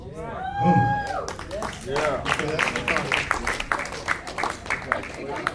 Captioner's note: class cheers and applauds